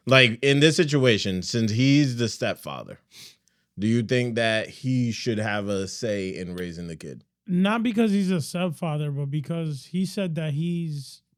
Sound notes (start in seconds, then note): none